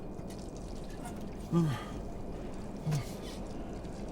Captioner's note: sigh